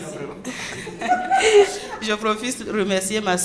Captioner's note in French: rires